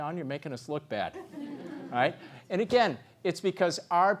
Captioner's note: laugh